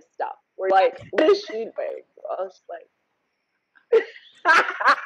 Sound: laughs

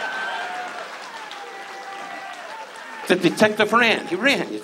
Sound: audience cheers

